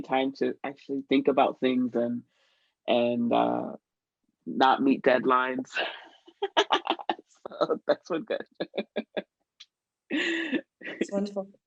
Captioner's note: laughter